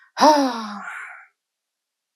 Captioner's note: le sigh